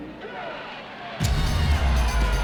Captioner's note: crowd cheering